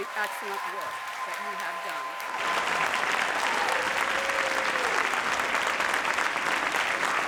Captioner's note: audience cheers and applauds; audience applauds